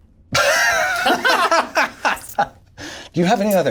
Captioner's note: laughs